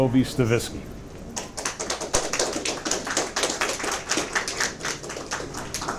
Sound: audience applause

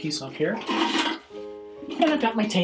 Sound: bucket clanging

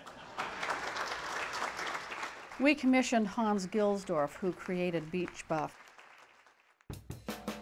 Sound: applause

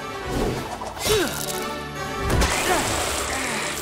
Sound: grunting

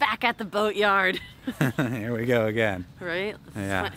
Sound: chuckling

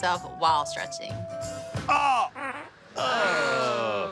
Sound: group groans; passes gas

